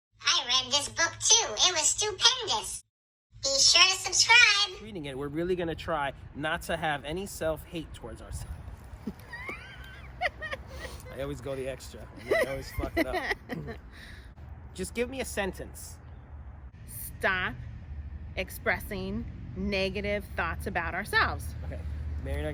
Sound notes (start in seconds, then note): 8.8 laughs